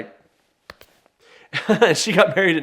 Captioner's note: chuckles